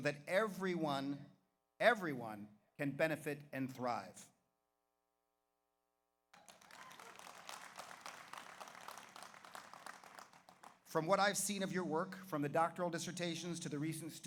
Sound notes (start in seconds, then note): 6.3 audience applauds; 6.4 audience cheers